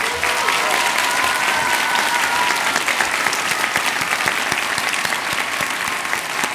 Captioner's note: cheers and applause